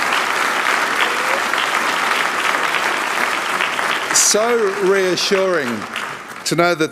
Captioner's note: applause